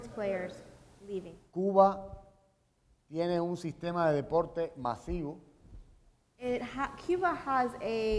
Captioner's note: speaking in Spanish